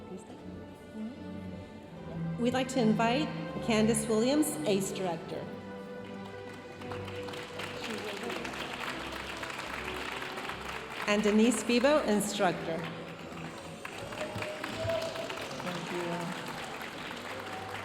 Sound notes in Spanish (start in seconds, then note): 2.4 hablando en inglés; 6.1 aplausos de la audiencia; 11.0 hablando en inglés; 12.7 aplausos de la audiencia